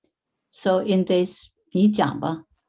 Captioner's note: speaking in foreign language